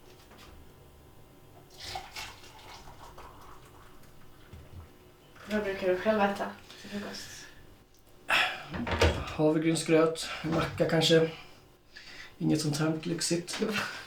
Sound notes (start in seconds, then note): 1.6 water is poured